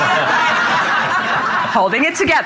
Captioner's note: audience laughing